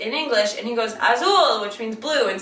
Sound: speaks in foreign language

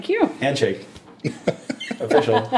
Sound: laughing

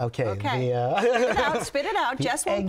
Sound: laughs

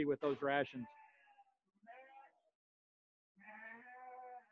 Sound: sheep bleating

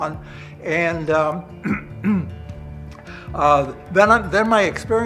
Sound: clears throat

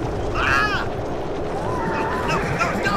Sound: shouting

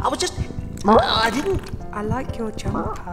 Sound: cat farts

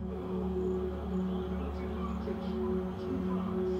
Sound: TV playing

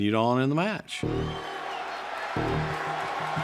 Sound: crowd cheering

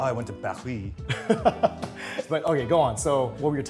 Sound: chuckles

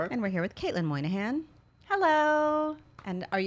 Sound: none

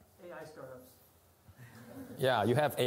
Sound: laughter

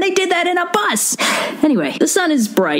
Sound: sigh

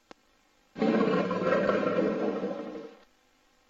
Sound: jaguar roars

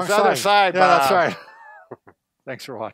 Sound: laughs

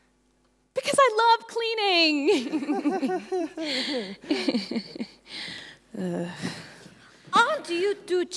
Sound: Ruby and Adrien half-heartedly chuckle

